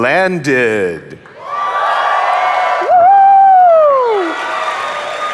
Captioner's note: audience applauding